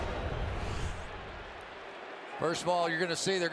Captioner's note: swoosh